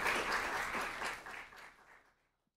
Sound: applause

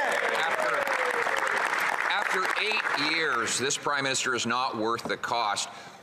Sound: applause

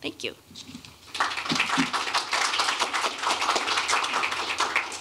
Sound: applause

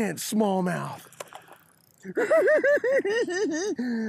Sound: giggling

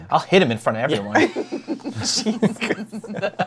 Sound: laughs; laughter

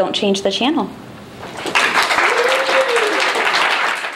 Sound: cheering and applause

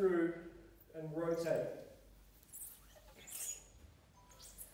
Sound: floor squeaks

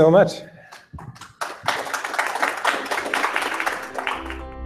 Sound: applause

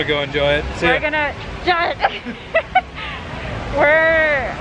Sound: laughs

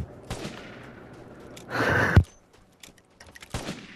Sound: anime School boy laugh

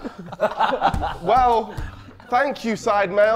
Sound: Sidemen laughing

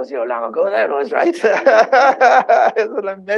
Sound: laughter

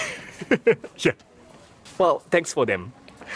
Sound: chuckles

